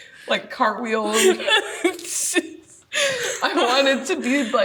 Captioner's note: laughs